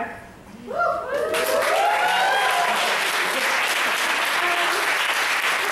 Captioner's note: audience applauds and cheers